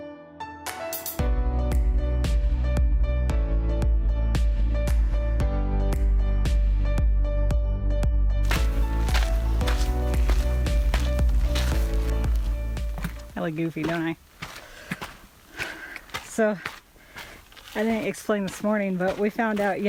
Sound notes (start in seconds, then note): 1.2 upbeat music; 8.5 crunching noises